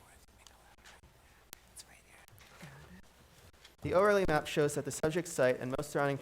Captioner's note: board chatting quietly